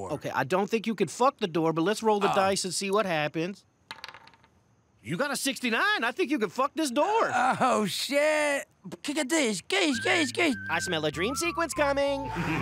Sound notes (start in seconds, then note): 3.8 dice clattering; 8.6 makes firework noises